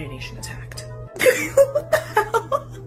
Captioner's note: laughter